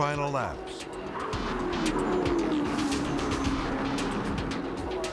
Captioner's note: cars whooshing